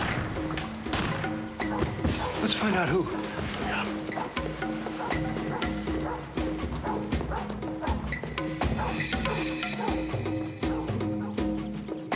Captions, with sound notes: (gunshots) (objects clattering) - Let's find out who. - Yeah. ■ (dog barking)